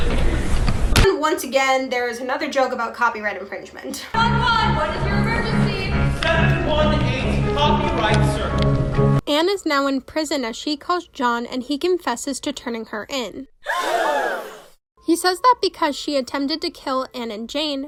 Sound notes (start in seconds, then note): 14.1 gasp